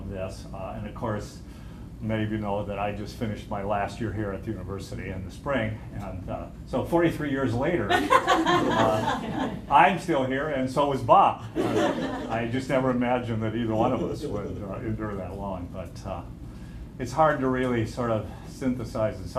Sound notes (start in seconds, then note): 7.8 laughter; 11.5 laughter